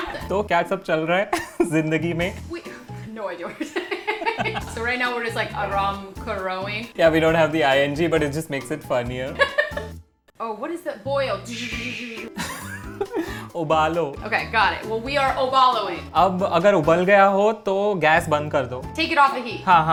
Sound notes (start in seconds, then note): 0.1 speaking in Hindi; 3.6 both laughing; 6.7 Hindi; 11.8 boiling sounds; 12.6 speaking in Hindi; 15.6 Hindi; 16.6 speaking in Hindi